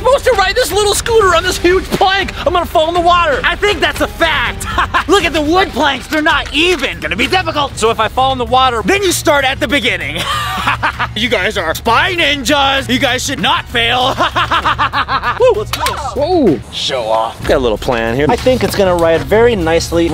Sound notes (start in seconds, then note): 4.4 laughs mockingly; 10.1 laughs loudly; 13.8 laughs loudly